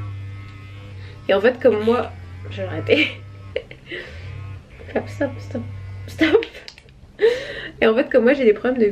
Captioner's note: laughs